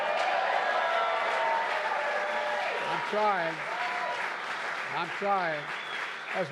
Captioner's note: applause